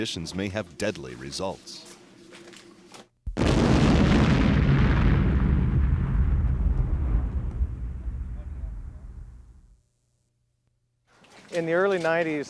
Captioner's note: explosion